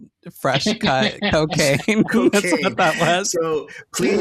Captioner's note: laughter